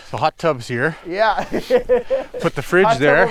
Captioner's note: laughs